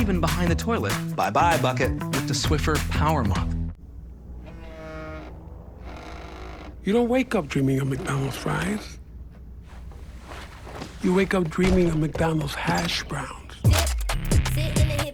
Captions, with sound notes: Bye, bye bucket. With the Swiffer PowerMop. [phone vibrating] You don't wake up dreaming of McDonald's Fries. You wake up dreaming of McDonald's Hash Browns.